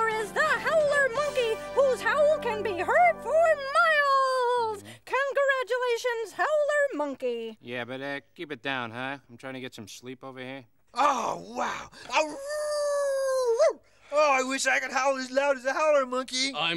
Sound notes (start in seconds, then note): 12.1 howling